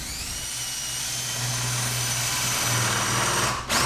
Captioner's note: drill whirring